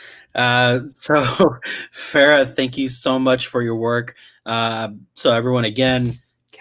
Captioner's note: laughs